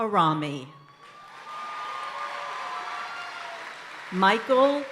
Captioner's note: audience applauding and cheering